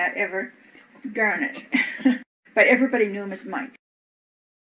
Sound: laughs

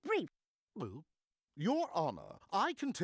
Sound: gulping

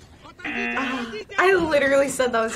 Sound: buzzer rings

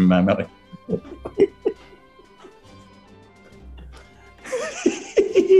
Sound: giggling; gleeful chuckling

